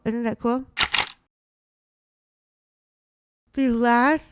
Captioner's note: camera shuttering